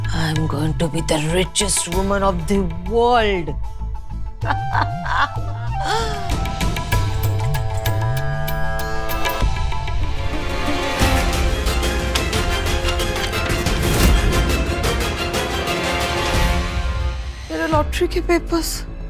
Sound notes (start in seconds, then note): 4.4 evil laughs; 10.9 dramatic music playing